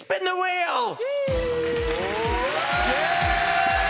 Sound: cheering

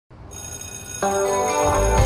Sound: school bell

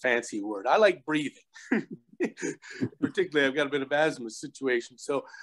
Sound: laugh

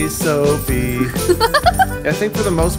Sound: giggling

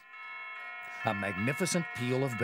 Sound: bells ringing

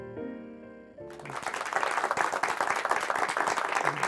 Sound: audience clapping

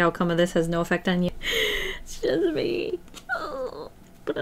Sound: deep inhale

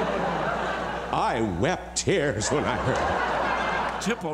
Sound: laughter

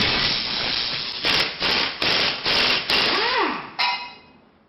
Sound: electric crackling; metallic shunting

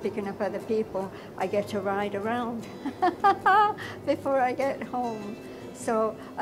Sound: chuckle

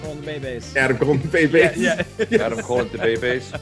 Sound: laugh

